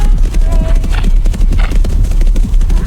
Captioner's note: horse neighing; hoofbeats thundering